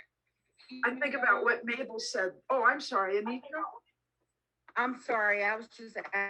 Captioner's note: interference from another mic